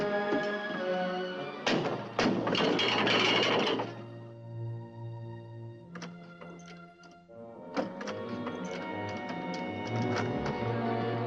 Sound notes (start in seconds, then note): 1.6 thumping, rattling; 7.7 lock rattling